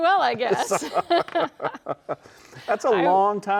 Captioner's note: both laugh